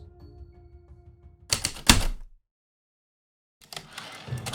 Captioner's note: typewriter keystrokes, return slide